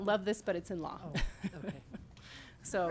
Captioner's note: chuckling